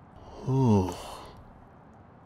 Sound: concerned sigh

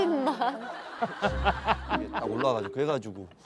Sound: laughing

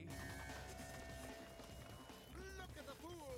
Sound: engine buzzing

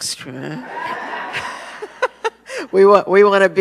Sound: audience laughs

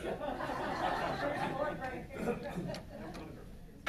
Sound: loud laughter

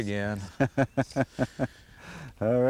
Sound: laughter

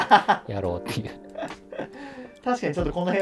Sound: laughing

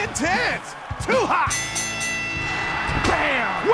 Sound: bell dings

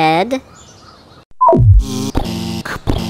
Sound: beep; buzz; pounding footsteps

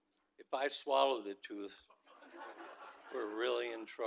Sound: audience laughing

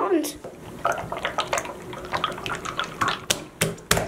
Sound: goo sloshing

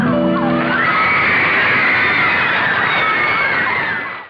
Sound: audience cheering; clapping

